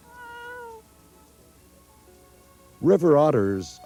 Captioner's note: otter meowing